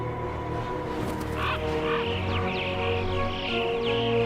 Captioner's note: crows cawing